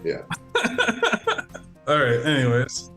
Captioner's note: laughs